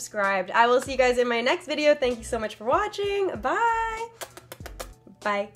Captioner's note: kisses